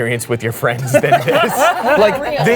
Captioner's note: all laughing